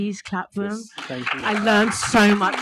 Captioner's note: audience applauding